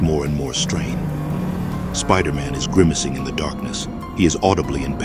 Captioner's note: metal bending sound